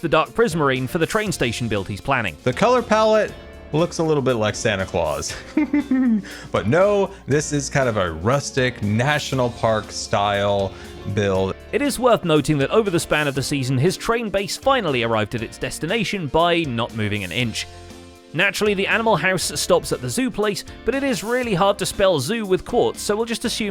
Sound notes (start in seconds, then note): 5.2 giggles